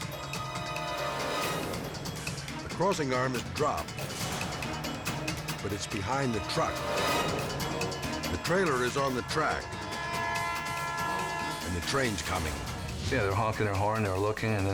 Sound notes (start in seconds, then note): 0.2 suspenseful music; 10.3 train siren wailing